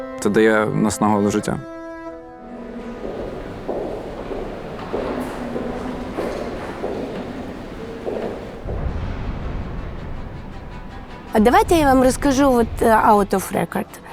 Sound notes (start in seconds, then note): 2.8 footsteps